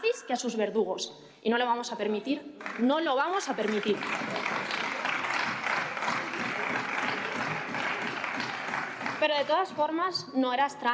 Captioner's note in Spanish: aplausos